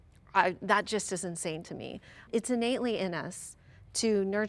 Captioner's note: none